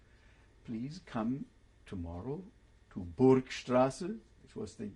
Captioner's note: german